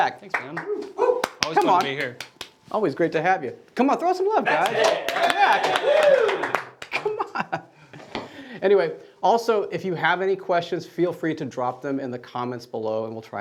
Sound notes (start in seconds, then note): 4.4 cheering; 4.4 applauding; 7.5 laughing